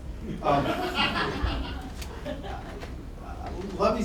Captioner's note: laughter